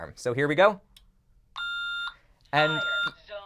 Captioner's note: beeps